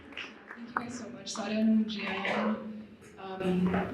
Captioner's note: applause